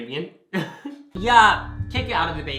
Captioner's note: both laugh